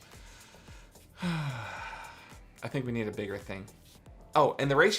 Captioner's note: sighs